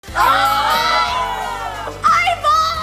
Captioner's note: family yelling